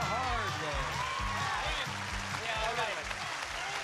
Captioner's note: applause